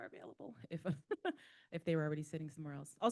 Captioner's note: laughing